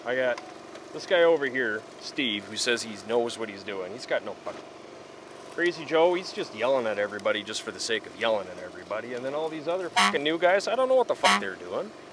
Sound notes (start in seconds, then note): 9.9 honk